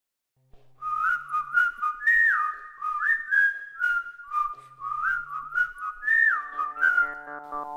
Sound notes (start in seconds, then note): 0.8 whistling